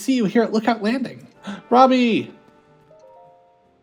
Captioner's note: gasp